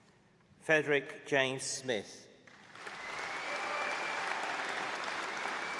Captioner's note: applause